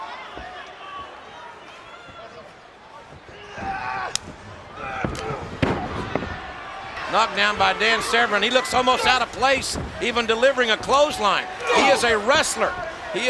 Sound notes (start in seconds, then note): 3.5 Severn grunts